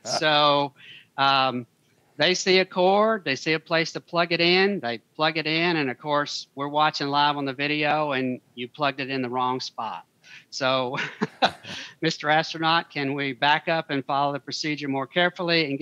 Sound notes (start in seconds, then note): 11.0 laughs